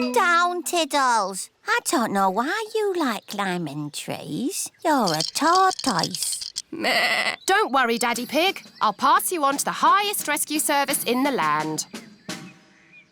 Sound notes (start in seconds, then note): 6.9 bleats